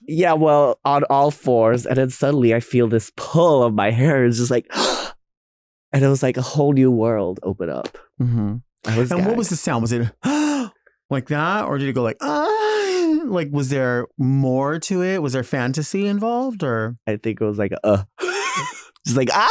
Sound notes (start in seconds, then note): 5.3 gasping; 10.2 gasping; 12.2 moaning; 18.0 chuckling